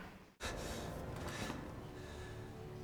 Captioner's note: breathing heavily